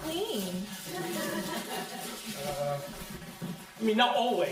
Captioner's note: crowd laughing